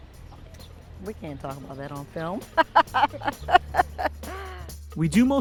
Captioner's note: laughs